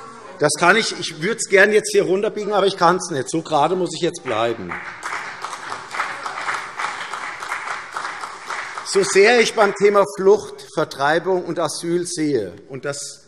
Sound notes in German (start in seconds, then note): 4.2 Beifall CDU